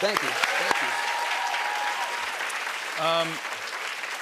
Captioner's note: cheers and applause